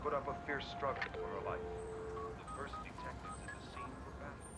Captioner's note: dial tone